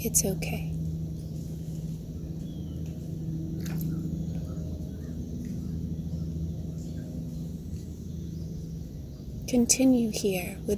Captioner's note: nature Sounds